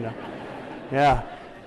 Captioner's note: laughter